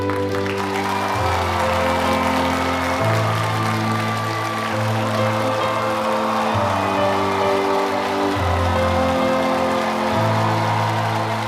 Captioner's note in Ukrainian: оплески